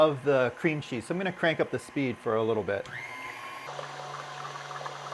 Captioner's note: mixer noise